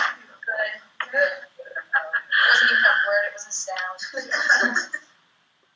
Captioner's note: students chattering